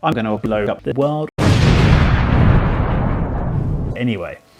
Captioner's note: very large explosion